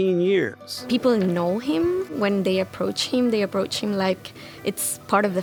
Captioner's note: none